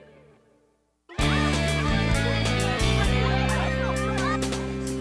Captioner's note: indistinct chatter